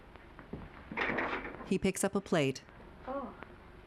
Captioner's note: none